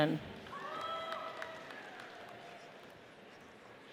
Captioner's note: audience applauds